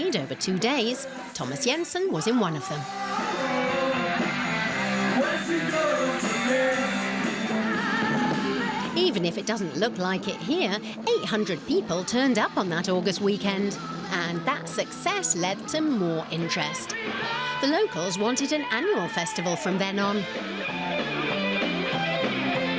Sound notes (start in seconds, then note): 2.8 music Applause